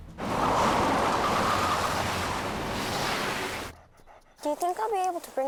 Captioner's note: tires skidding; sloshing